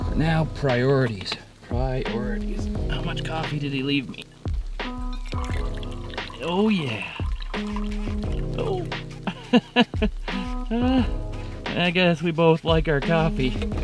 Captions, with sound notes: But now, priorities. Priorities. How much coffee did he leave me? Oh yeah! Oh! (laughs) I guess we both like our coffee.